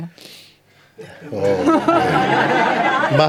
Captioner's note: laughter